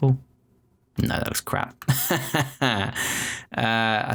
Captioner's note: laughing